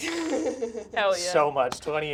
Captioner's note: die rolls